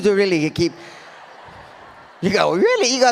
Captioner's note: audience laughs